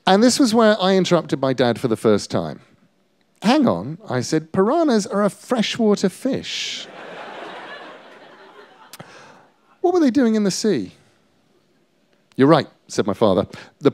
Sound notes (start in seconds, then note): 6.8 laughter